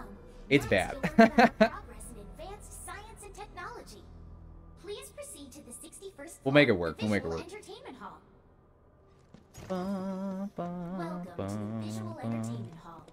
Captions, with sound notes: It's bad. [LAUGHS] ...advanced science and technology. Please proceed to the 61st... We'll make it work. ...the visual entertainment hall. [HUMMING] Welcome to the visual entertainment hall,